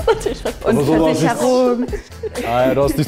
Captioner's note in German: kichert beschämt